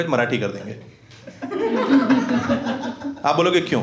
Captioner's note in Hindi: हँसना